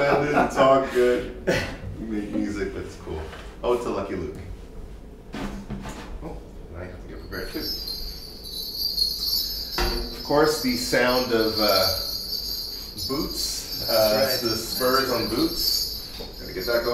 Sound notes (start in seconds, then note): 10.3 bells jingling